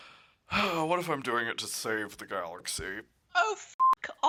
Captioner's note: sighs